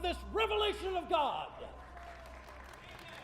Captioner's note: crowd clapping